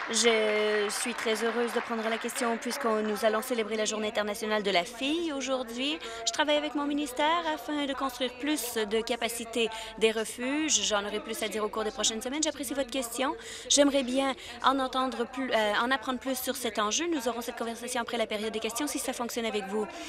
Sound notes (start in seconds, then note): 3.7 applause